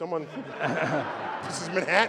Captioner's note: laughter